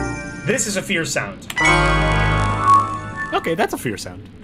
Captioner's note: abrupt sharp synth sound